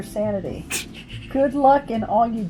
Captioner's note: snickers